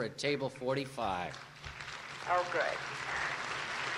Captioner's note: applause